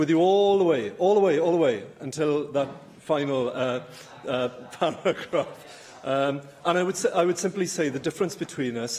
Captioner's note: laughter